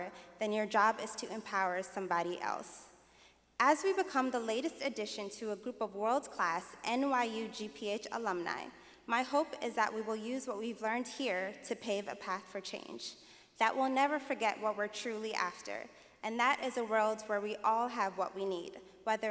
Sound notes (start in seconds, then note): none